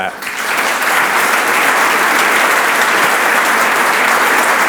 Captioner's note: audience applauds